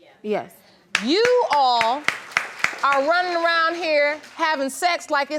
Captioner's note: crowd applaudes